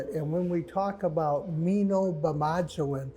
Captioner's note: speaks ojibwe